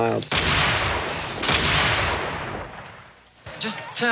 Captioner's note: gun shots ring